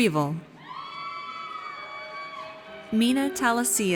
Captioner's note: audience cheers